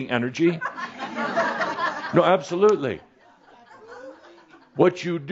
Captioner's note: some chuckles